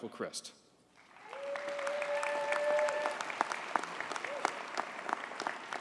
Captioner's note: audience cheers and applauds